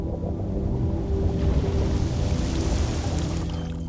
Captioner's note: rushing water sound